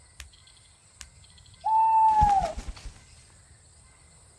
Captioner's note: owl HOOTS